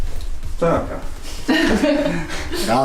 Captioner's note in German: Lachen